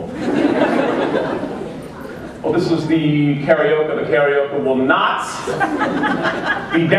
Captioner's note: laughter